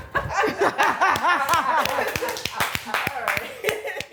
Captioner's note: laughter; applause